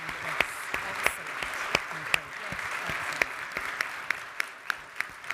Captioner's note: panelists chattering quietly